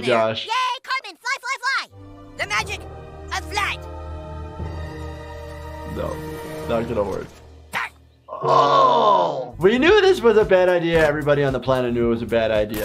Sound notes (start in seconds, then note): 1.9 inspirational music; 4.0 inspirational music building; 8.3 Cartman grunting; 8.3 doctor groaning